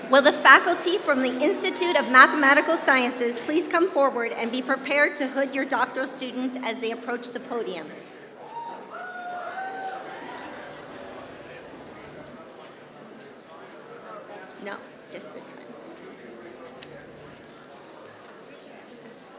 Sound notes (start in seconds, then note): 13.3 applause